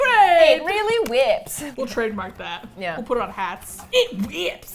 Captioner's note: laughs